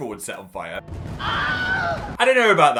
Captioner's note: man screams; fireworks explode